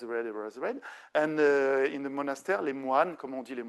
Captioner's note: speaking French; speaking French